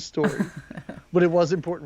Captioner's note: chuckles